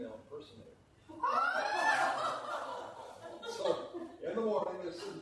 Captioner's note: laughter